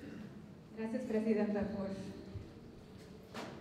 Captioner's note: non-english speech